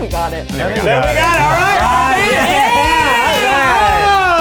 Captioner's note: everyone yelling